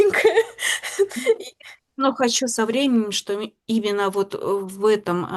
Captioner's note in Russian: смех